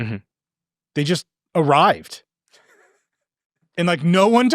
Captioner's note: laughing